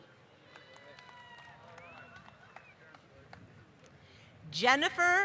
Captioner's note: applause